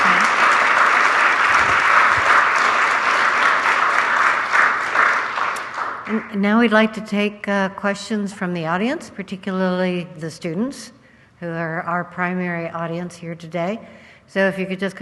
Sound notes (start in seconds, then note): 2.7 applause